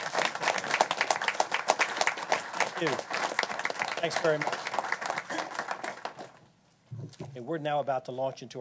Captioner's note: applause